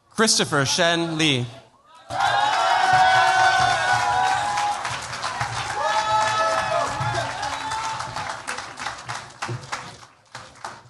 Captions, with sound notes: Christopher Shen Lee. [CHEERS, APPLAUSE]